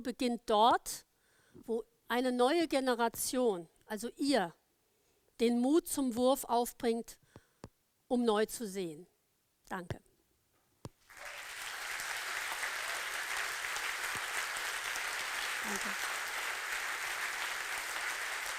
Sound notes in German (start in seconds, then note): 10.7 applaus